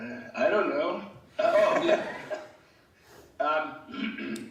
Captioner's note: laughing